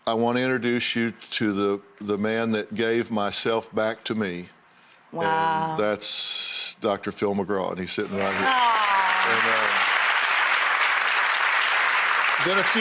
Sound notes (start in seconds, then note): 8.0 claps; 10.0 audience applauds